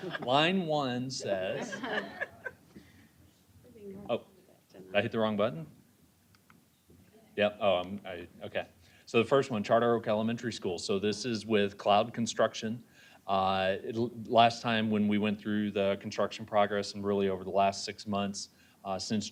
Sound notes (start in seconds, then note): 1.4 laughter